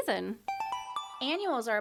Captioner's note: chime